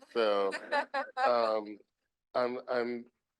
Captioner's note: group laughing